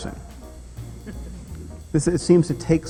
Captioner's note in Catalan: rialles